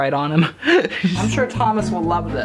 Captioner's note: laughing